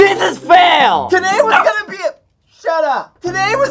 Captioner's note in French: aboiement